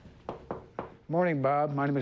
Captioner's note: Jerry knocks